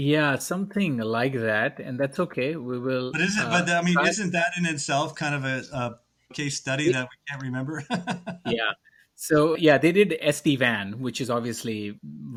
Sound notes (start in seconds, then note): 7.6 laughs